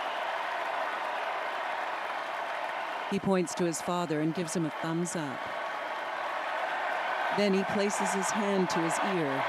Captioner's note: applause